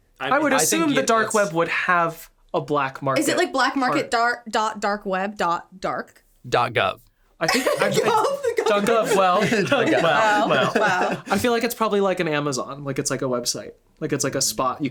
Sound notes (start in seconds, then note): 7.5 laughs